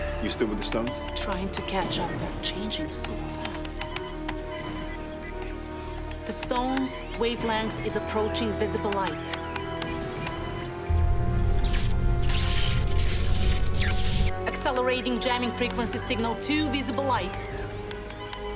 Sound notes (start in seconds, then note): 4.0 trilling and beeping on monitor; 9.2 trilling and beeping continues